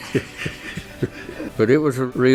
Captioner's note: laugh!